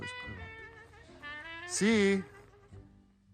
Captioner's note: chatter in background